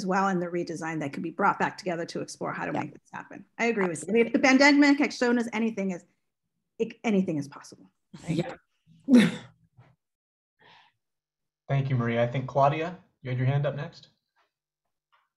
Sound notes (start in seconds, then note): 7.9 laughter